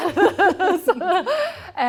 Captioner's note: laughter